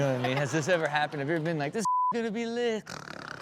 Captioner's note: Chanel chuckles; beep; Rob snores